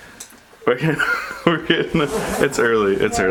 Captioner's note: laughs